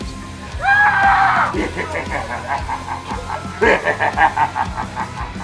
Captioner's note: character screams; character does scary laugh